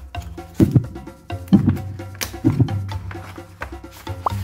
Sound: heart racing

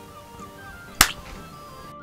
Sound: splat

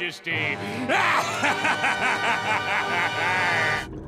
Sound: cackling

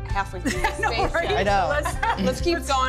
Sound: laughing

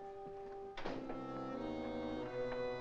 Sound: front door closes; ominous music

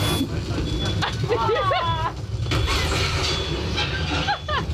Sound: nervous laughing

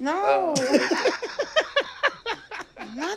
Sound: laughs

